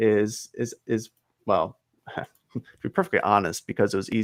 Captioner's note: chuckles